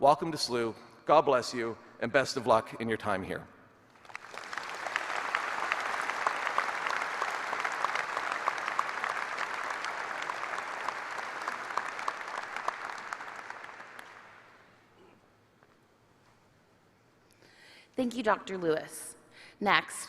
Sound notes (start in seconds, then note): 7.0 applause